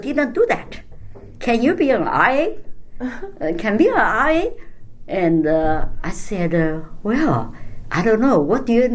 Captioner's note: laughs